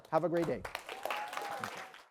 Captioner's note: applause